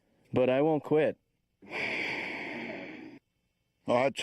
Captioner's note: sighing